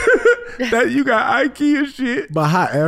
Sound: laughing

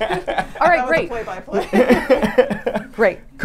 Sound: laughs; chatters

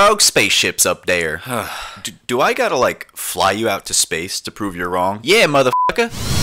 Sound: sigh

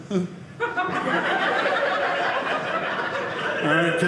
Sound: audience laughing

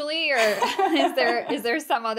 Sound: laughing

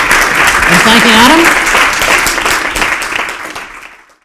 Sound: applause

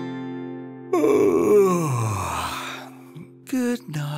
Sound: yawning

